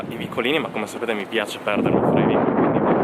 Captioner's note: wind noise